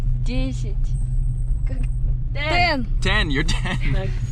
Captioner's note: speaking in foreign language